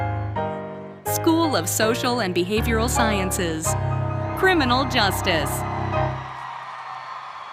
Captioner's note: cheering